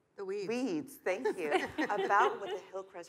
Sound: laughs

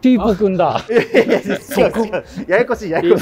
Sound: laughing

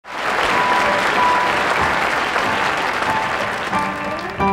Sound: applause

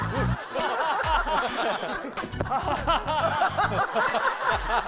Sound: laughing loudly

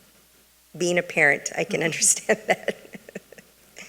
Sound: laughs

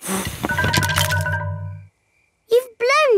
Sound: blowing

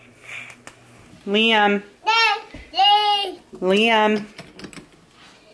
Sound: babbling

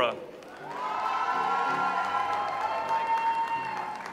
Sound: audience applauds

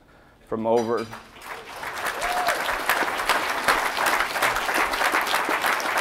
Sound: audience applauding

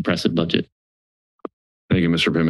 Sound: silence

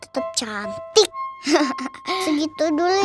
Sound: laughing

